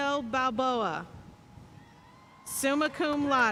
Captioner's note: audience cheering and applauding